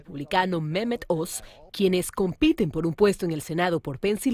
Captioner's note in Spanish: habla en ingés